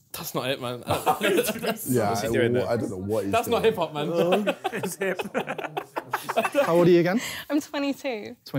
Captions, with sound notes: - That's not it, man. - Yeah I dunno what, I don't know what he's doing. - That's not hip hop, man. (laughing) - How old are you again? - I'm 22.